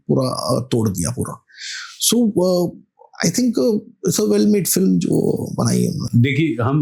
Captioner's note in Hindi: नाक से की जाने वाली आवाज़